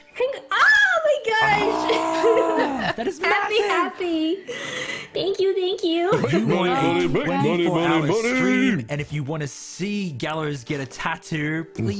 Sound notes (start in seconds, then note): 4.4 gasp